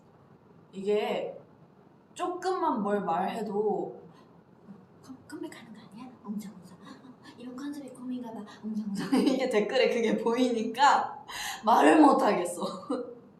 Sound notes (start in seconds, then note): 5.1 chatter chatter